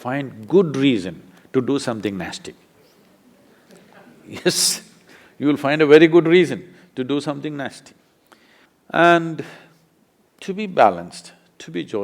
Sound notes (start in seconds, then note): 3.1 laughter